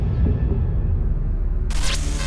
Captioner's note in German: Glitch